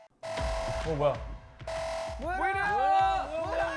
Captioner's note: Ela-bell alarms throughout their dorm